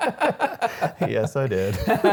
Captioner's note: laughing